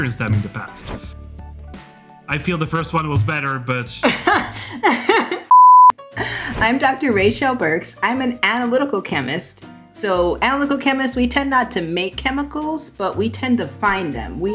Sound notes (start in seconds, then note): 4.0 laughs; 5.5 beeping